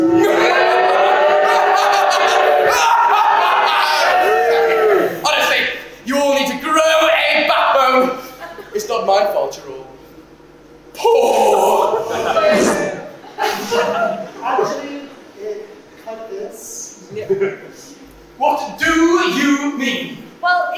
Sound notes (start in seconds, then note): 13.3 fart noise